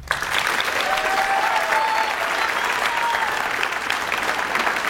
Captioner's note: audience cheers and applauds